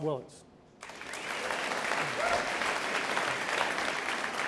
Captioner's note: audience applauds